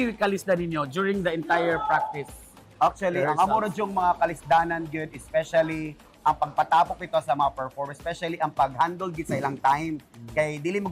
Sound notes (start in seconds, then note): 3.2 chuckles